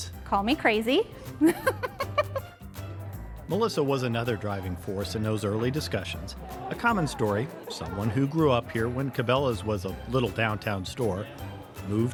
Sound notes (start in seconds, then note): 1.4 chuckling